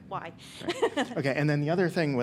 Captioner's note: laughs